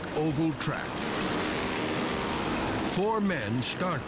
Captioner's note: bikes rumbling